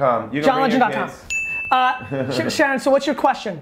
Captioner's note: laughs